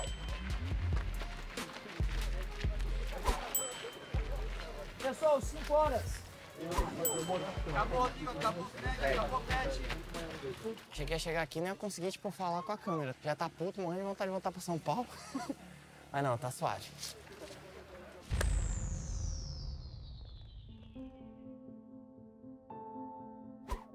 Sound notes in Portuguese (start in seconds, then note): 0.0 hip hop agitado; 15.1 risos; 20.6 piano dramático